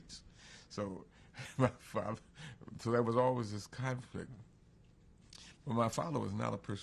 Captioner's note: laughs